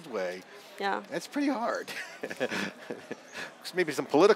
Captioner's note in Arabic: ضحكة مكتومة